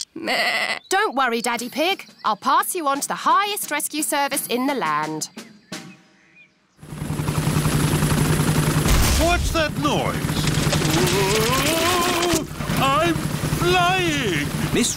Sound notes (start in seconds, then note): 0.2 bleats; 7.6 whirring; 8.8 thuds